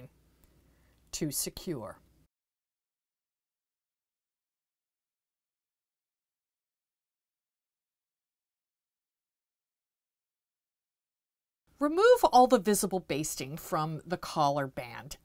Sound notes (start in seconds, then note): 2.2 no Sound Present